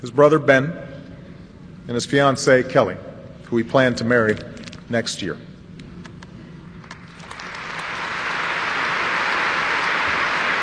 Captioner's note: applause